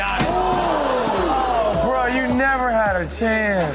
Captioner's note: audience groans